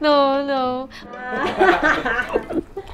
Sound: laughs

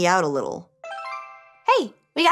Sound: electronics chime

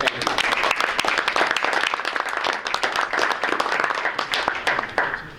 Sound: audience clapping

